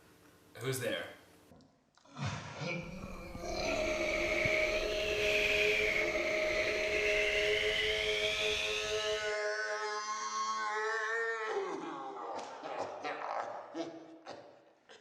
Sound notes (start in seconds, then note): 2.5 air wooshing and pained yelling; 10.5 pained yelling turns into a cry of "Yeah!" and pained laughter